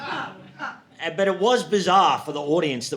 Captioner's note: audience laughing